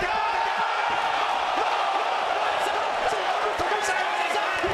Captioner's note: applause